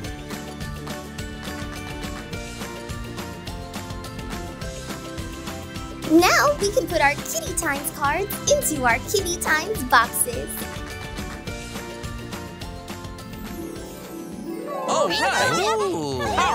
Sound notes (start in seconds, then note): 13.6 chime